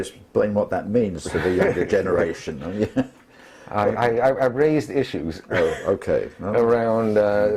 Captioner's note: laugh